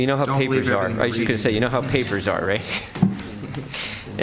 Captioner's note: laughs